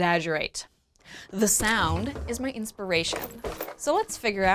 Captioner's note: clanking